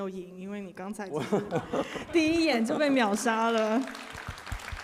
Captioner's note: laughs; applause